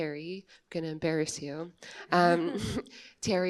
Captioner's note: chuckles